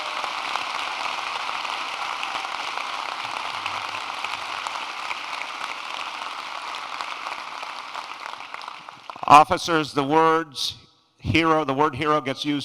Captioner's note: applause